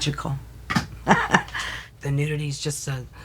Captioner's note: laughs